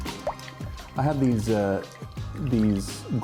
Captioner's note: water bubbling